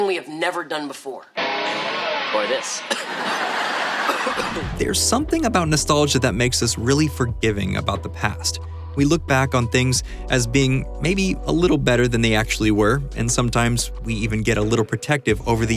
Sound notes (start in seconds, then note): 4.0 coughing